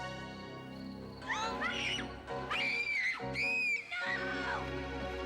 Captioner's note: Caddie screaming